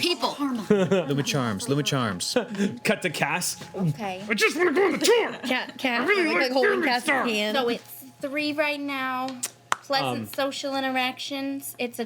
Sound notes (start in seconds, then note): 0.4 laughs